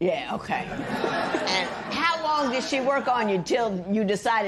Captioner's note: laughter